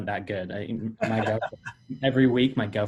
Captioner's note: laughing